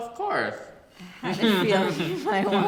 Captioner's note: both laugh